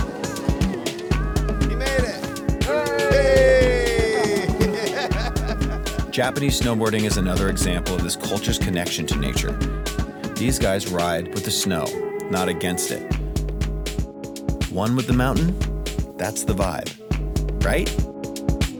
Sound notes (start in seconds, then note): 2.6 people cheering; 4.7 laughing